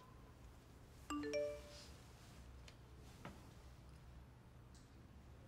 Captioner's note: notification chiming